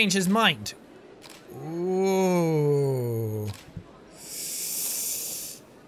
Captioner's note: sharp intake